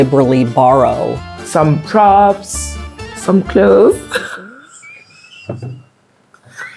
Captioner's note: actress laughing